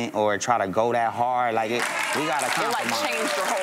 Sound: audience applause

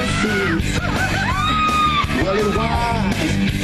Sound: ladies cheering

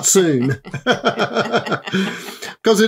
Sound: laughter

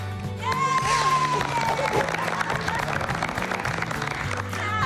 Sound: cheers and applause

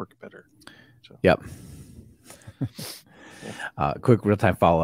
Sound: laughs

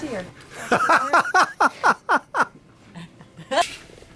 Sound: laughing

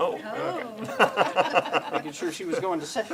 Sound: laughs; laughter

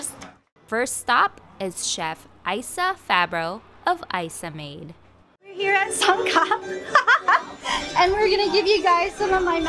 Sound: laughs

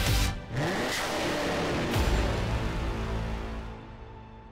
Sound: engine roars

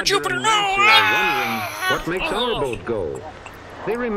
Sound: Jim & Starch scream, crash, gurgle

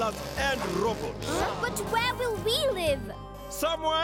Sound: gasping

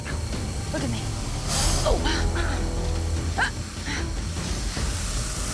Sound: hissing

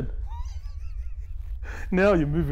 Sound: laughing

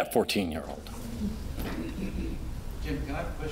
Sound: audience laughing

